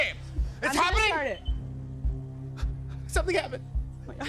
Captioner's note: beeps